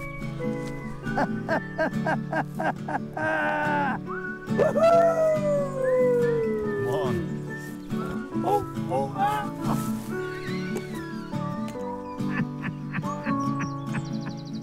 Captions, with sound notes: (laughing) Woohoo! Come on. (shouts) (laughing)